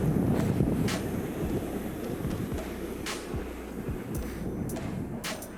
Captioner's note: wind blowing